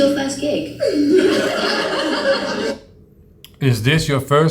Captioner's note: audience laughing